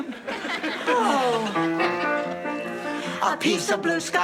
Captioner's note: exasperated sighs